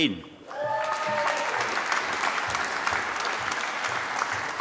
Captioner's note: applause